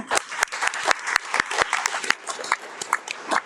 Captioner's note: all applauding